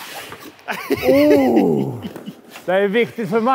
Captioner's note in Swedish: skratt